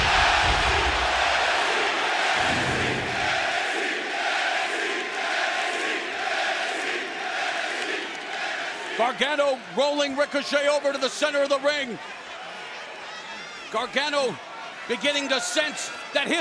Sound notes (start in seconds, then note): 0.1 fans chanting